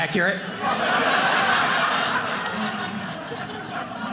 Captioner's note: audience laughing